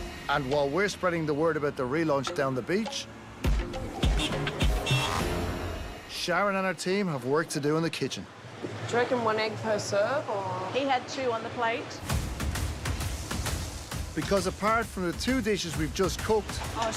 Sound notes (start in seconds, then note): 3.8 horn honks; 12.0 dramatic music